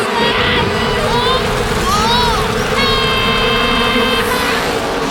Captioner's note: buzzing; fire crackling; screaming